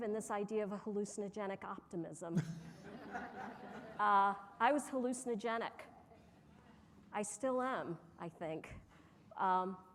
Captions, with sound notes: in this idea of a hallucinogenic optimism. (audience laughing) I was hallucinogenic. I still am, I think.